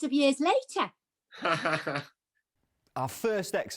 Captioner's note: laughs